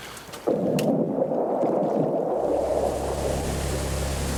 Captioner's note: water burbling